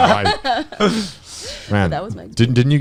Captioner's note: laughing